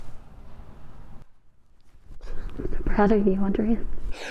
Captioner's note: gasping